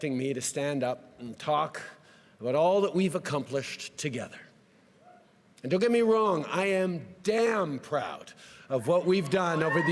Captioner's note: cheering and applause